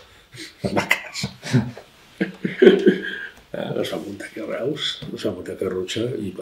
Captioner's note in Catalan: Riu